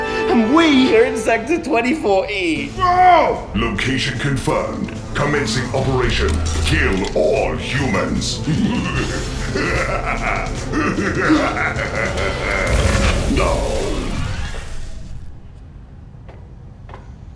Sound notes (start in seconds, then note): 8.4 evil laughter; 12.4 electricity powering down